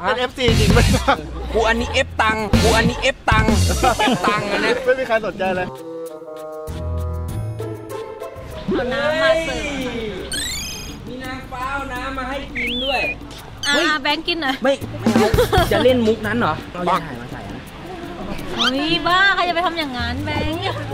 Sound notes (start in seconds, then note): 3.4 laughs; 5.8 mysterious melody playing; 15.1 laughs